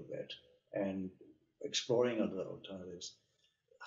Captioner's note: speaking softly